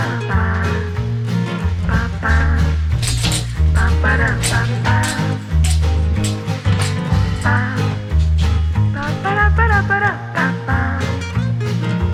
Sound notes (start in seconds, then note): 0.3 outro music; 3.0 sound of pull chains on overhead lights